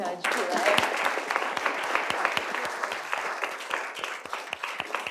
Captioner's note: applause